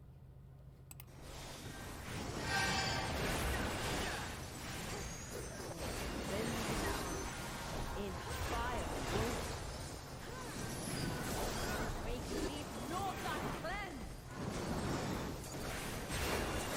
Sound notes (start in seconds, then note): 0.7 sounds of battle; 0.8 mouse clicks; 14.1 flames whooshing